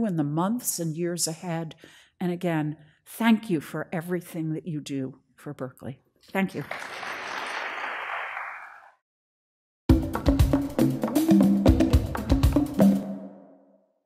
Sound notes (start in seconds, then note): 6.5 audience applause